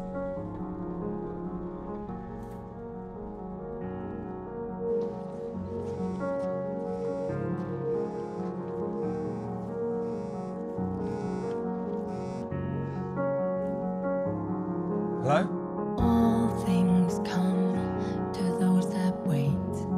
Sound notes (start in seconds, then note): 5.7 phone buzzing